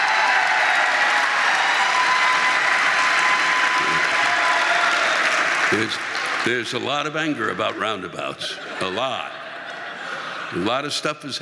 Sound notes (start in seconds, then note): 2.7 audience cheering; 4.6 audience applauding